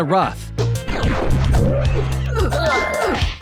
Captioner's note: whooshing; both grunting and groaning